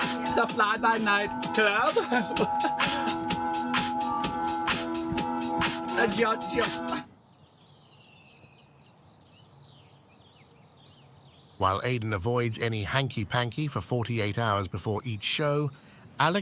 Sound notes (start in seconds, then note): 2.8 techno music; 7.1 birds chirping